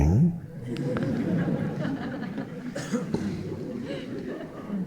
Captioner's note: audience chuckling